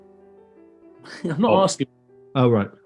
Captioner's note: chuckles